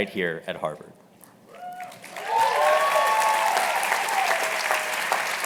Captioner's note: cheers and applause